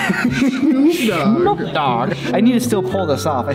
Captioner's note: laughs